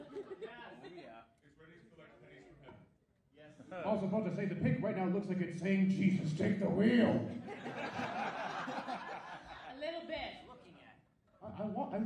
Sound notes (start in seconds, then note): 0.0 audience laughs, makes a few scattered comments; 7.4 audience laughs